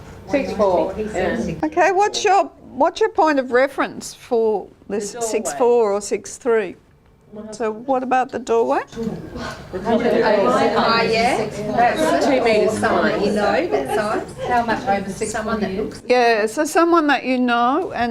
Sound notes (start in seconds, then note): 9.0 audience chatter